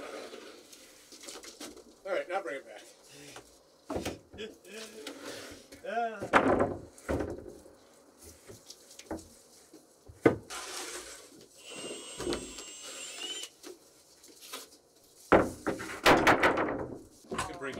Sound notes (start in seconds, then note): 4.8 chuckles; 6.2 plank clunks; 11.6 drill whirring; 15.3 plank clunks